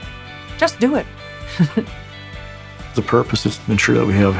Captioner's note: laughs